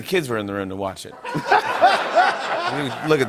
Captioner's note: laughter